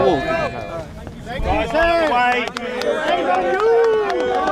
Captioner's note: crowd shouting and clapping